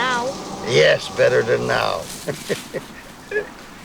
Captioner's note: laughing